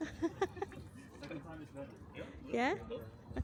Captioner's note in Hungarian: nevetés